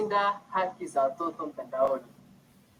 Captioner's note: foreign